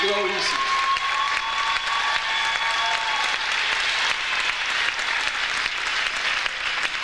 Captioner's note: audience cheers; audience applauds